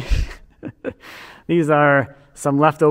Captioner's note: chuckling